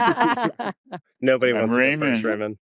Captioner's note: laughter